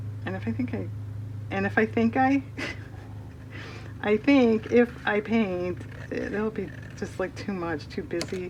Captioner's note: laughs